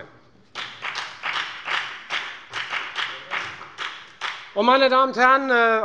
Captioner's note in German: Beifall bei der FDP